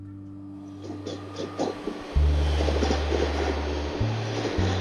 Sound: train rattling

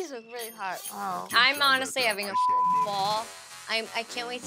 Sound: beep

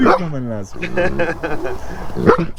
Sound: laughs

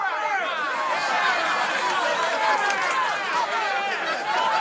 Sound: laughter

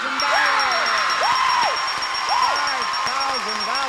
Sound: shouts excitedly

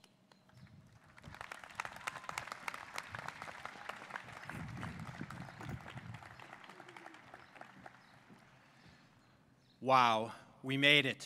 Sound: applause

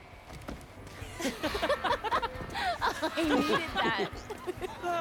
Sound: laughing

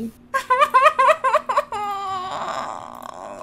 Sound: cat cries like for real

